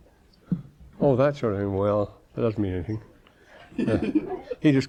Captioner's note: laughing